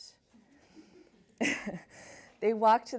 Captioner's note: laughs